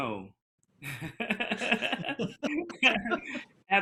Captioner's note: laughing